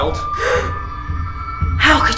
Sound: gasps

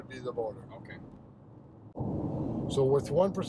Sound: tires softly rumble

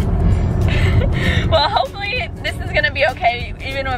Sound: laughs

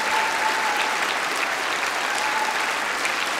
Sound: cheering & Applause

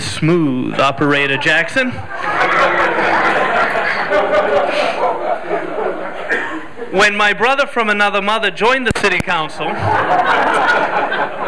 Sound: laughter

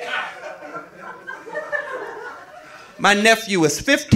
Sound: audience laughing

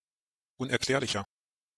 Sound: fast Pronunciation

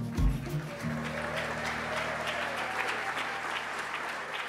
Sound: cheers and applause

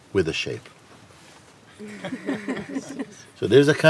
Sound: Lachen

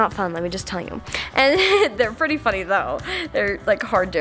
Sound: laughs

